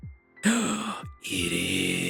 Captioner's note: gasps